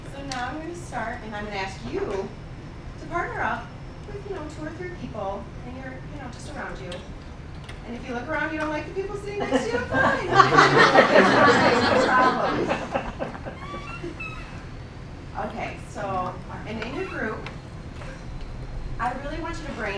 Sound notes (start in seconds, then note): 9.3 laughing